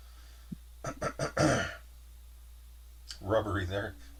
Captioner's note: clears throat